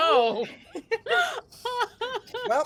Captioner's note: laughing